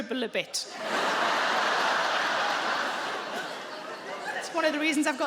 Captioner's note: audience laughing